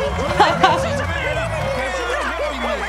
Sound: laughs

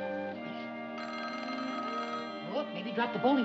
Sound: phone rings

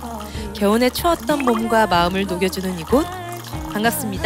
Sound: drip.. Drip.. Drip.. Drip

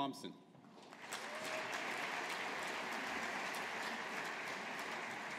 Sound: audience applauding

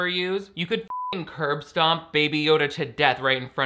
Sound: beep

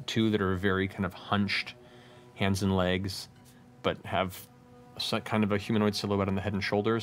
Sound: none

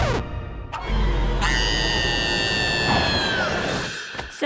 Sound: screaming

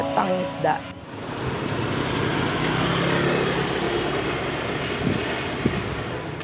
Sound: motor engine whirring

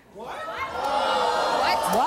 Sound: audience gasps

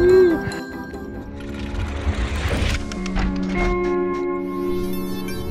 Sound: travel sounds

